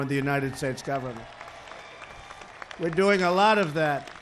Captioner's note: applause